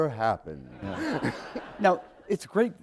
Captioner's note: laughter